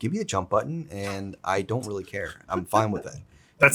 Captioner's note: chuckles; Zack chuckles